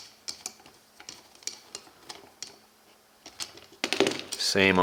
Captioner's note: screw being positioned